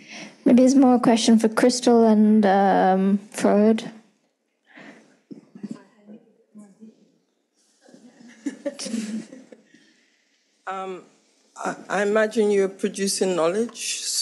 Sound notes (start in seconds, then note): 7.8 group laughing